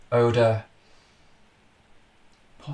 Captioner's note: inhales, clinical